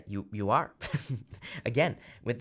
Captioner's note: chuckles